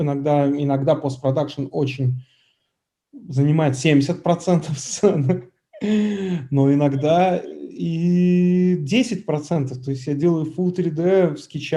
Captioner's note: laughs